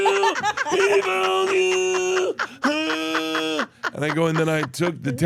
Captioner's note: laugh